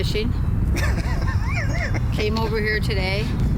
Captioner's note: laughs